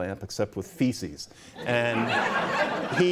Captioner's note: laughter